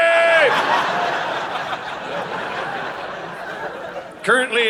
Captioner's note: audience laughing